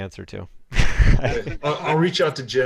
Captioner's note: laughter